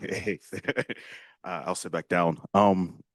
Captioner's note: chuckles